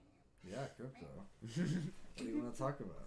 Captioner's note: laughing